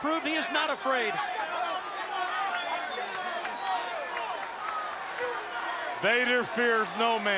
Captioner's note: crowd chatter